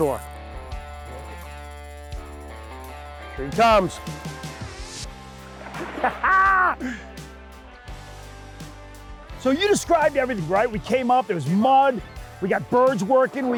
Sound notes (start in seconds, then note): 0.2 rock music; 4.7 rock music; 5.8 laughs; 6.0 rock music